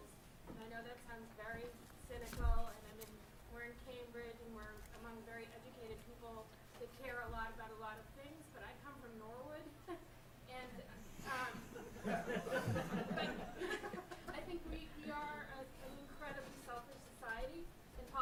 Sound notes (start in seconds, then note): 11.5 laughter